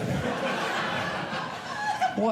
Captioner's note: audience laughing